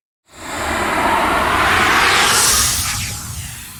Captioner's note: air whooshing